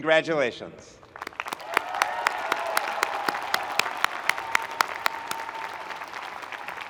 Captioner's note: audience cheering and applauding